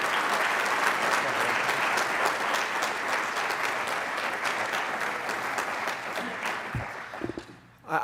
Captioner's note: applause